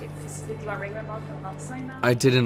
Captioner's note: muffled chatter